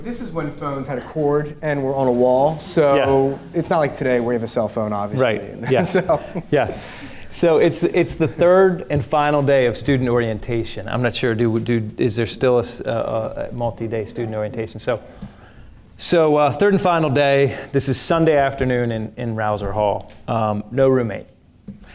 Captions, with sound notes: This is when phones had a cord, and were on a wall. So it's not like today where you have a cell phone obviously. (laughing) - Yeah, right, yeah, yeah. So it's the third and final day of student orientation. I'm not sure is there still a multi-day student orientation? So third and final day, this is Sunday afternoon in Rouzer Hall, no roommate.